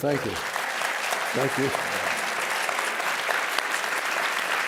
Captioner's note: applause